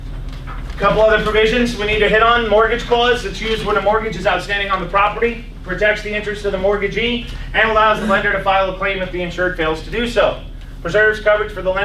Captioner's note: laughs